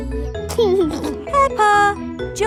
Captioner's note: giggling